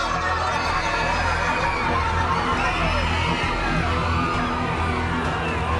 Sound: crowd screaming

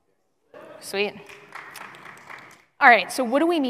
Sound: applause

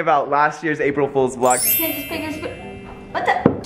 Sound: tinkling

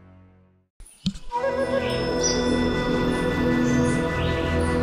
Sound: birds chirping

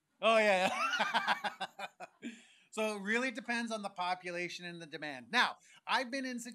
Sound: laughs

